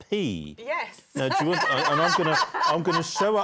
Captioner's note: laughter